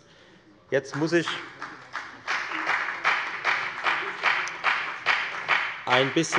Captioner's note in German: Beifall bei der FDP